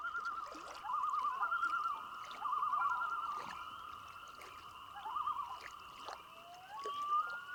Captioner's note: loons calling